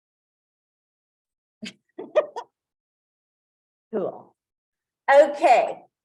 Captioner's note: laughs